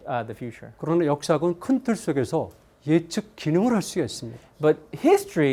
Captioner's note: speaking in Korean